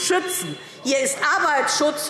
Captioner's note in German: Unruhe – Glockenzeichen